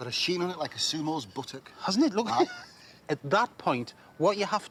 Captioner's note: chuckles